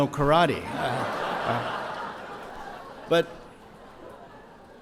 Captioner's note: audience laughs